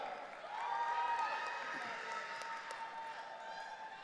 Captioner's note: audience cheering